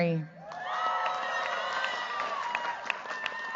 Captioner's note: cheers, applause